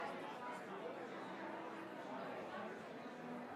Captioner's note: crowd chattering